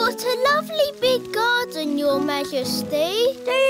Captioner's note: none